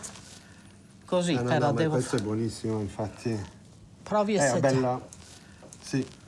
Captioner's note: speaks in foreign language